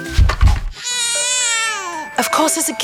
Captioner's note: baby crying